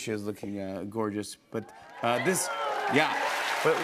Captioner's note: crowd cheers